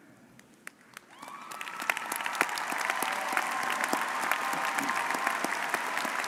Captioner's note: audience cheering and applauding